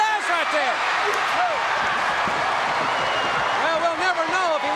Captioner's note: audience cheering